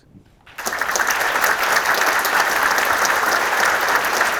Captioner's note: audience applauding